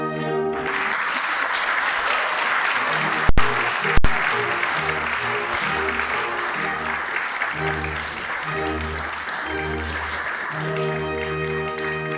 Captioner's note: applause